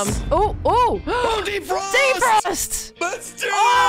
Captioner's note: gasp